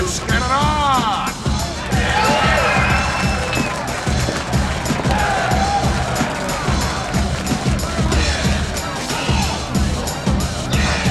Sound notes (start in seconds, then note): 2.3 crowd cheering; 4.4 thumping hip hop music